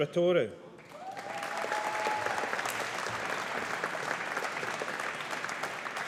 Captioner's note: audience applauding